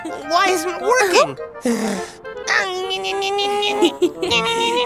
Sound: grunting; sighs

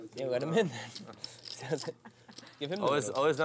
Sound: voiceover

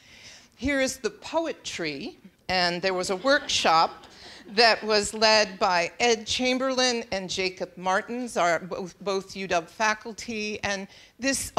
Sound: laughing

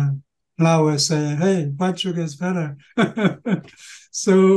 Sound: laughing

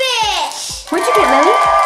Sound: cheering

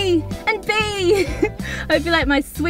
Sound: laughs

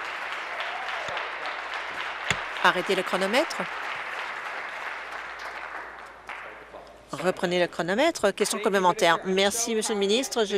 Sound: applause

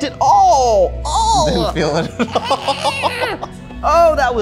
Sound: chuckles

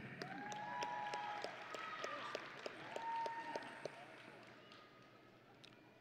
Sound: audience and graduates cheering

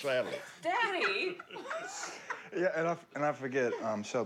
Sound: laughter

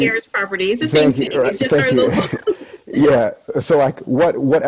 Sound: laughing

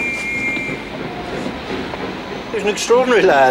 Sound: whistle blows

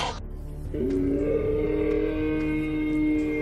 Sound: loud howl

